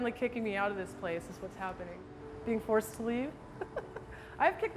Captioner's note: laughs